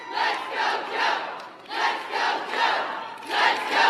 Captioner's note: applause